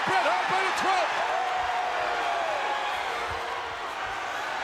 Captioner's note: crowd cheers